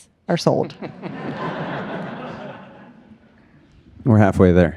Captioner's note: audience laughs